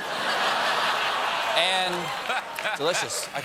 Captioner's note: laughter